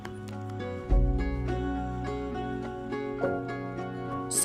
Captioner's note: hand pats arm